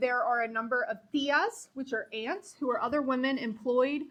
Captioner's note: speaking foreign language